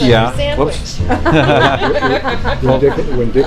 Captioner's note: laughter